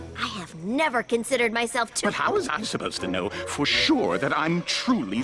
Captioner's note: none